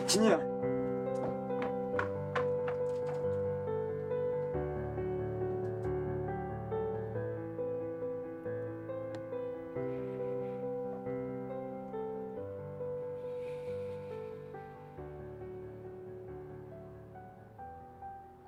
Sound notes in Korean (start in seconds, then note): 9.8 지석의 숨소리